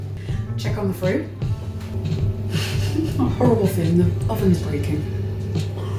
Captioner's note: laughs